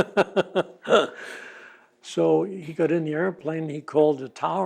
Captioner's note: laughs